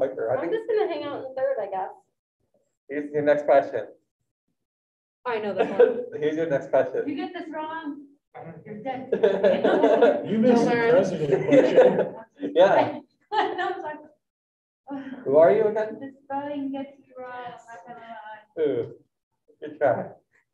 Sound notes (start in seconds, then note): 9.1 students laughing